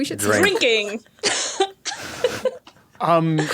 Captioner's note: guests crack up